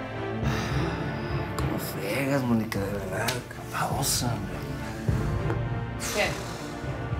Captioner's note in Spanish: exhala